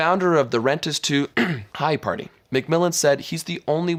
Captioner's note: clears throat